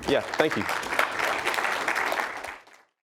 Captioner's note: applause